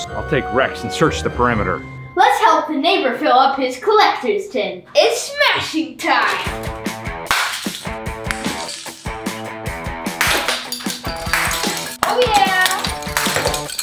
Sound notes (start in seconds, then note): 7.0 clapping; 10.2 eggs crashing